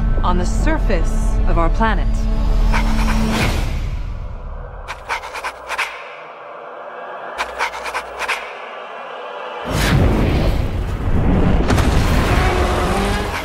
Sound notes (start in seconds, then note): 2.4 music intensifies; 2.7 Sensometer scraping; 9.7 Kong roars